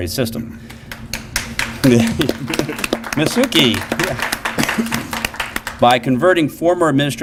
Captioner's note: applause